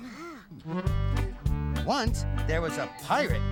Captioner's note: reading aloud